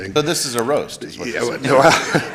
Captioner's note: laughter